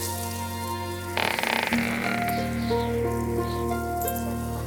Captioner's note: door creaking